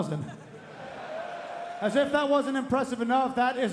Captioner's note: crowd cheering